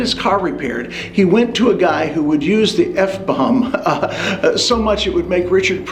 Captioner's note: chuckles